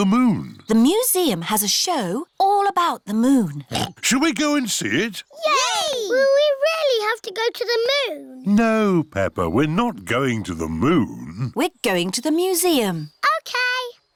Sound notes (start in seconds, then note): 3.6 oinks